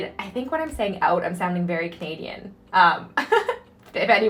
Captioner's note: laughing